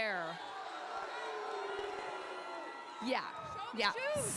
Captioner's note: crowd cheers